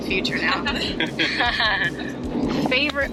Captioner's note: laughter